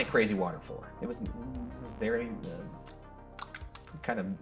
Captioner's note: tongue clicking